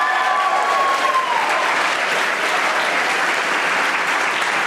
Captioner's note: audience applauding